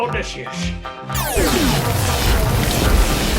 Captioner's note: thunder